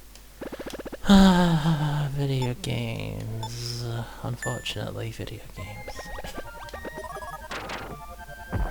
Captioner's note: sighs